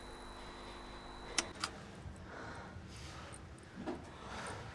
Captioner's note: button clicks